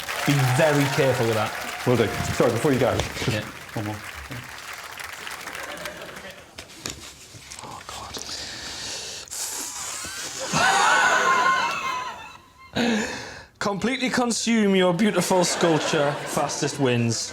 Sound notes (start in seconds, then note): 10.3 laughs